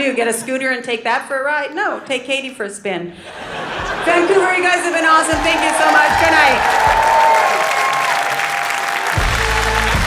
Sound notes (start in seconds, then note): 3.2 audience laughing; 7.3 audience cheering; 9.0 outro music plays